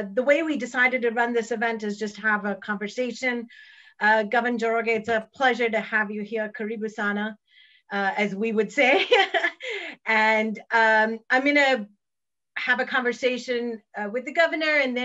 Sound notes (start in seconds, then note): 6.7 speaks in foreign language; 9.5 laughs